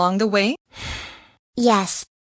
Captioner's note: sighs